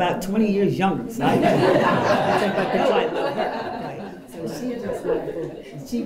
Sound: laughter

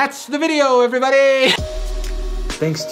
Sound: static

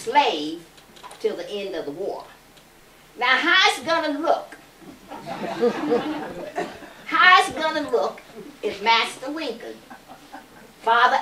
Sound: laughter

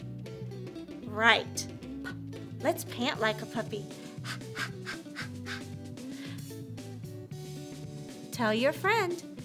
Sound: panting

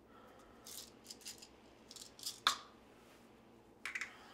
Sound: pills rattling

